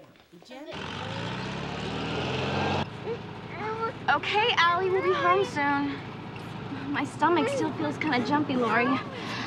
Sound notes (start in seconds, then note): 3.4 allison crying